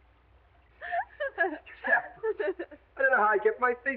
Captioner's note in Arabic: تضحك